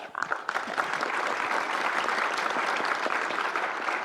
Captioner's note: audience applause